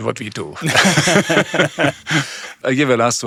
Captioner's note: both laughing